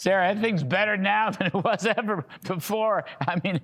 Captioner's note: laughter